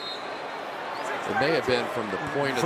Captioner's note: whistle